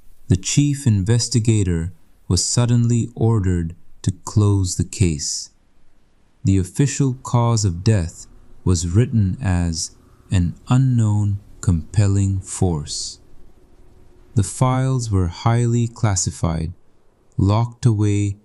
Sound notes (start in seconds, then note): 13.4 breath